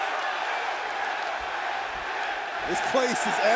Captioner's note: fans chanting